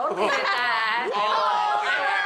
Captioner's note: exclamations